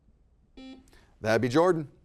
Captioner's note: buzzer beeping